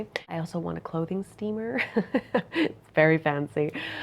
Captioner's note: chuckles